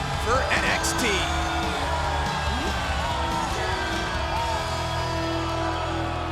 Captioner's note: crowd cheering